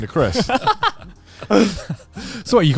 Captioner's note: all laughing